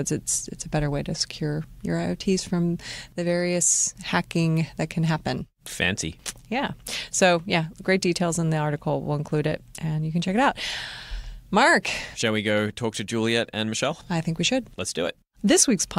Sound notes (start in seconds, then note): none